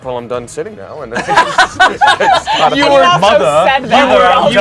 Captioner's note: everyone laughs